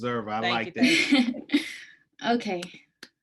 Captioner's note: laughs